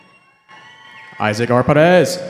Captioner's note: cheering